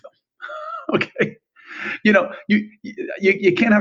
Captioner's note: laughs